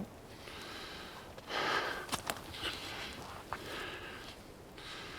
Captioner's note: James pants